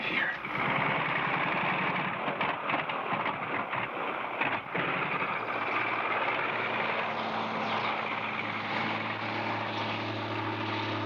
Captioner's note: engine revving